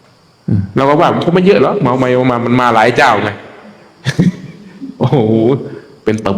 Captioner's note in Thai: เสียงหัวเราะ